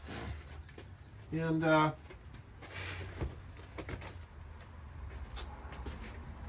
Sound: moving sounds

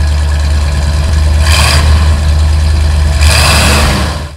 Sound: engine revs

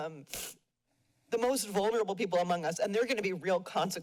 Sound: sniffles

